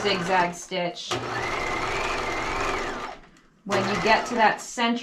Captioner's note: sewing machine roaring